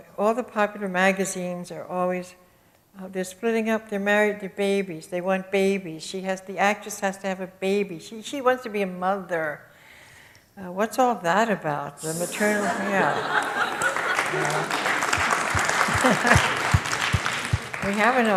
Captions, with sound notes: You know all the popular magazines are always: "They're splitting up." "They're married, the babies. They want babies." She has- The actress has to have a baby. She-she wants to be a mother. What's all that about? [AUDIENCE CHUCKLES] The maternal, yeah. [AUDIENCE APPLAUSE]